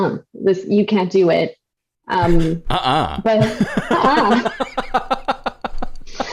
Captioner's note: laughter